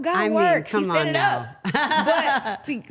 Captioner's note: laughs